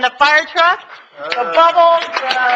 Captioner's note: audience clapping